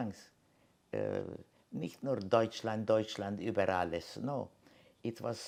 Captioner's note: german